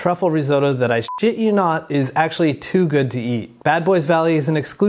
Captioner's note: beep